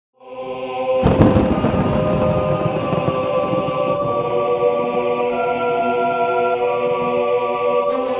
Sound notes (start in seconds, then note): 0.3 dramatic music; 0.9 thunder crashing